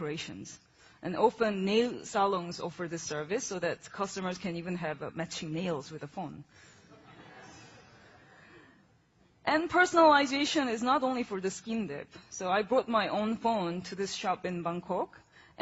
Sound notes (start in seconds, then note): 6.6 laughing